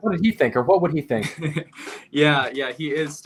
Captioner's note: chuckling